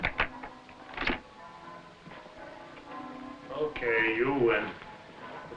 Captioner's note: bells pealing